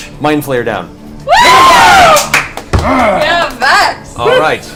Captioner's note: all cheer